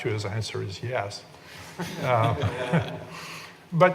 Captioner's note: laughing